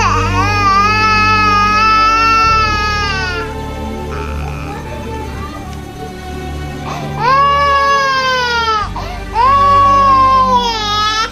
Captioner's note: the baby cries